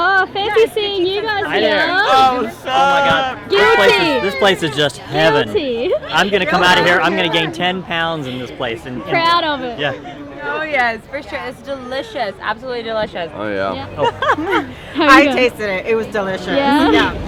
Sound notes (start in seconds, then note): 3.4 cheering